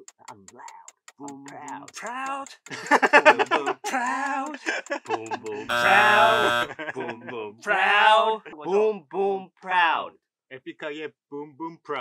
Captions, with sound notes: I'm loud, I'm proud. - Boom, boom, proud. Boom, boom, proud. Boom, boom, proud. (buzzer buzzes) Boom, boom, proud. Boom, boom, proud.